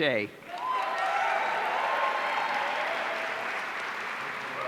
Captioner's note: audience cheering